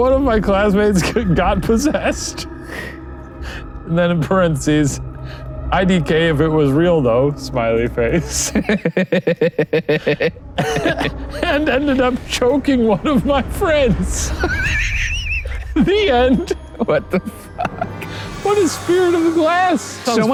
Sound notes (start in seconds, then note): 8.1 both laughing; 16.5 wheezing